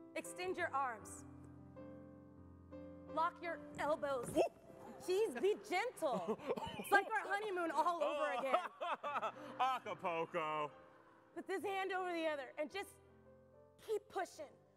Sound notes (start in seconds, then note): 6.0 laughs